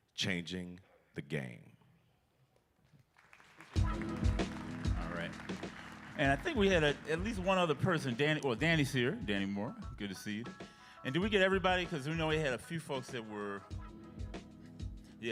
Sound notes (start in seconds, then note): 3.0 applause